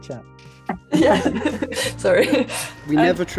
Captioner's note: chuckles